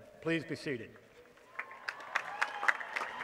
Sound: applause

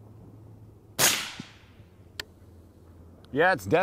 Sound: rifle fires

